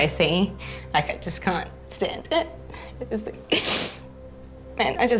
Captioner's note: sniffs